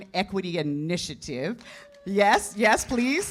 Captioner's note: cheers and applause